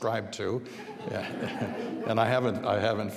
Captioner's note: audience laughing